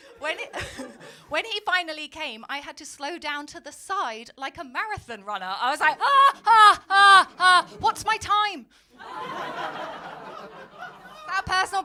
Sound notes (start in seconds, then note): 0.7 laughing; 6.0 gasping; 9.0 crowd laughing